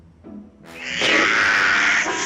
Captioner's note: blows air